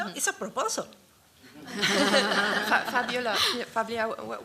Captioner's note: laughter